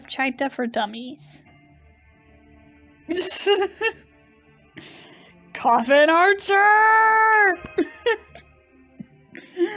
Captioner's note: laughing; still laughing